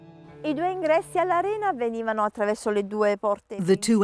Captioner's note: speaking in foreign language